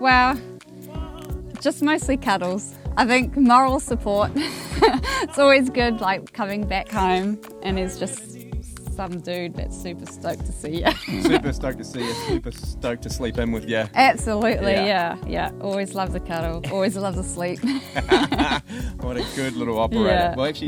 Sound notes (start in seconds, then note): 17.6 both laugh